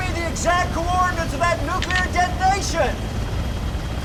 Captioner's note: click